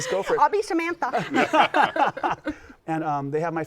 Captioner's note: laughter